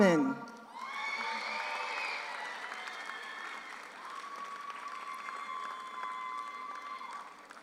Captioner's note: audience applauds; audience cheers